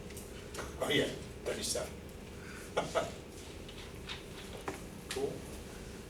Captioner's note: laughing